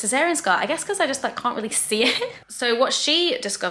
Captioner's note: laughs